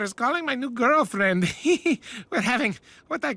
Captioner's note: chuckles